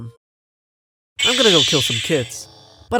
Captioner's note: Lightsaber